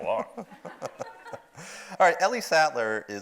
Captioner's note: audience laughs